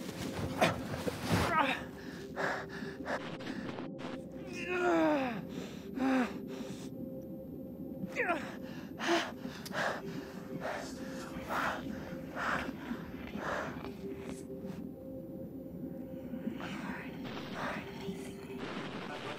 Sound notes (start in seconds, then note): 1.7 person grunting; 5.4 person breathing; 11.4 person whispering